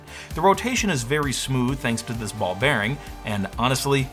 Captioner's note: none